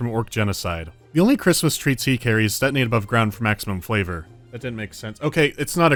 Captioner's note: off mic